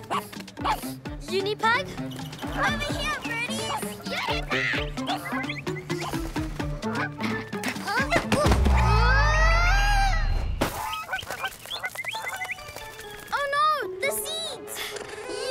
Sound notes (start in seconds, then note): 0.0 huffs; 0.5 barks; 8.8 grunts